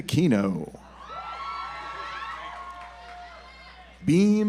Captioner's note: audience applauds